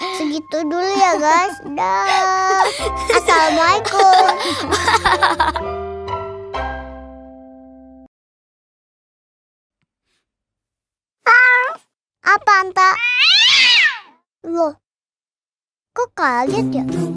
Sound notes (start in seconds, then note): 2.4 laughing